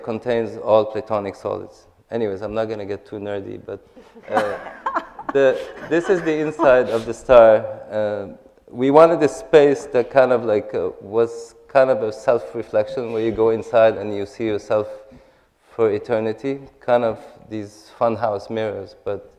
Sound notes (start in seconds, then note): 3.9 laughter